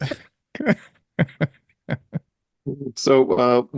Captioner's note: laughing